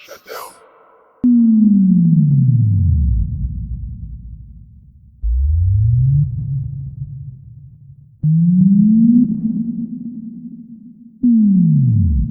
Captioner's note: fading sinus tones